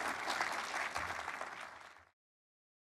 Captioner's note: audience Applauding